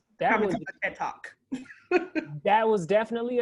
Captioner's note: laugh